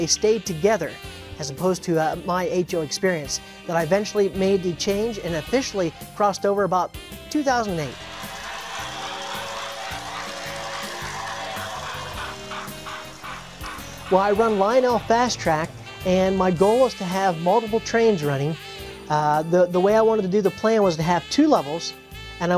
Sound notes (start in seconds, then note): 7.9 train whistle